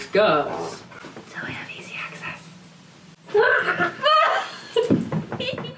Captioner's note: funny voice; whispers